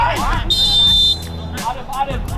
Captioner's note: referee whistles